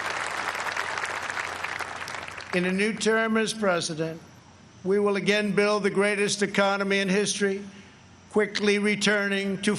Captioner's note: applause